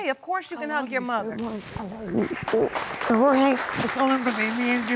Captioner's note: applause